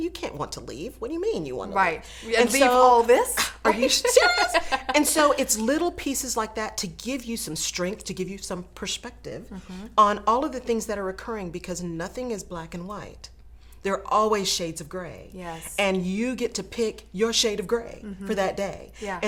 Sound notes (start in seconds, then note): 3.3 laughing; 3.6 scoffs